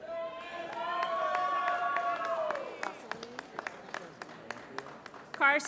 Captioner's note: applause